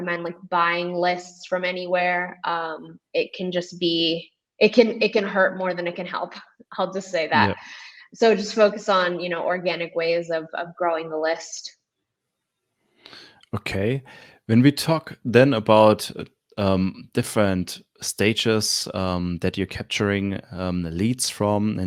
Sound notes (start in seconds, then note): 7.3 chuckles